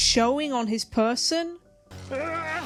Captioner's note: god-awful reverb screams